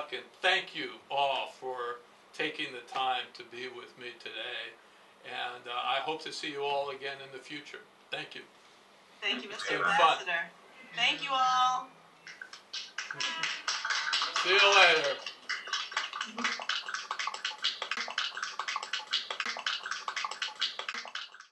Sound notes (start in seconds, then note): 13.0 applause